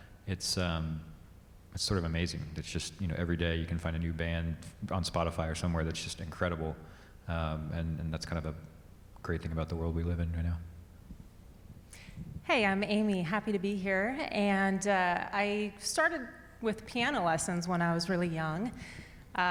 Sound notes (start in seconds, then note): none